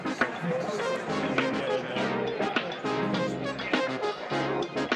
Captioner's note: # upbeat music #; background chatter